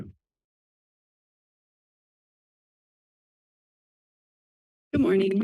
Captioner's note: silence